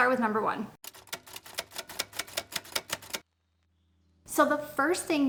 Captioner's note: typewriter keys clacking